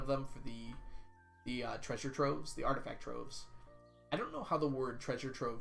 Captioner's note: none